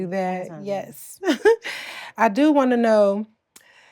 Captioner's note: laughs